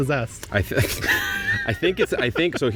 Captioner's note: both laughing